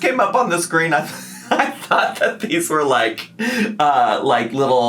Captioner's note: laughs